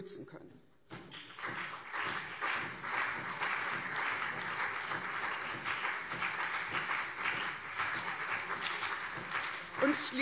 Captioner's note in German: Beifall CDU und SPD